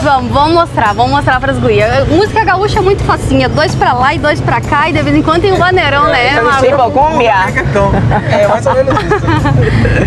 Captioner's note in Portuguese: risos